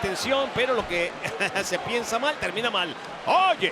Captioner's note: laugh